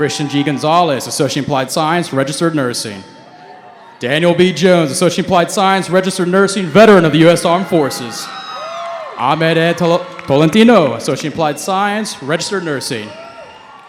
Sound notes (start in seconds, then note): 0.0 cheering; 8.9 cheering